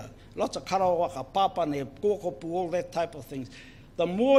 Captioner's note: speaks in foreign language